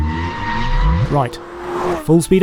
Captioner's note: tires screeching